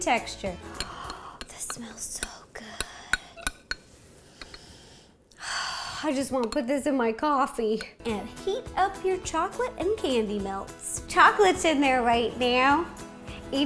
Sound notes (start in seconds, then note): 0.8 gasp; 3.9 sniff; 5.4 sigh